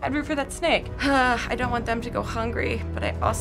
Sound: sighs

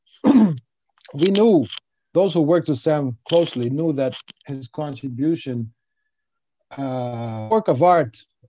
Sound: glitch

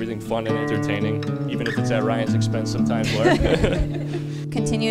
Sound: laughs

